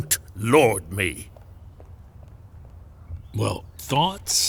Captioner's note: footsteps briskly leaving